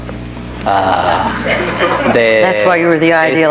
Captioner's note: audience laughing